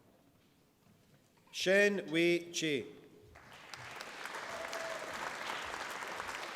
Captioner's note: applause